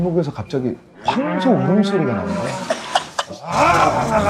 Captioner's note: suddenly hearing the sound of a bull